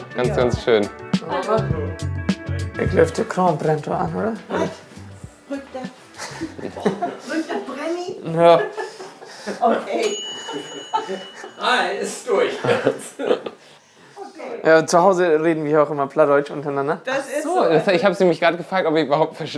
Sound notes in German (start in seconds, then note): 8.2 Gelächter